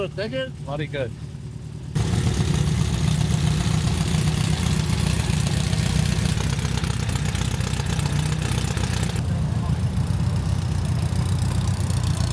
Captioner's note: car engine